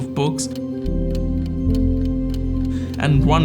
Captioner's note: clock ticking; pensive music continues